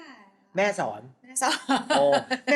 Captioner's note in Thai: เสียงหัวเราะ